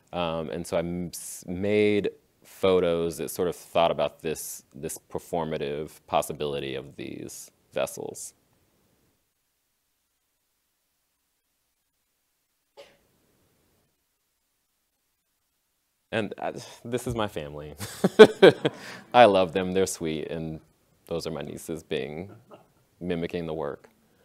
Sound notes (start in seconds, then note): 17.8 laughs